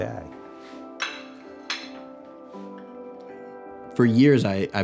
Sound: bowl clinking

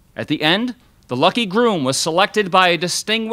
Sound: none

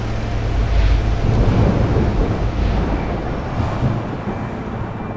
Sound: waterfall flowing; thunder rumbling

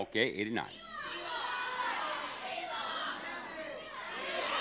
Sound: audience shouting

